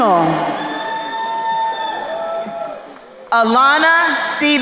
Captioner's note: crowd cheering